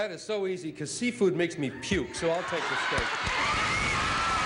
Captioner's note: cheers and applause